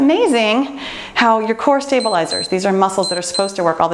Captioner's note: timer beeps